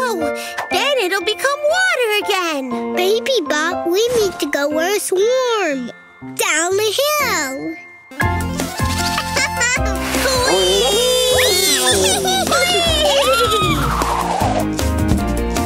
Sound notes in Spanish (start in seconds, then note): 8.5 risitas